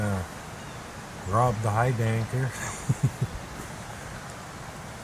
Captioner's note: laughter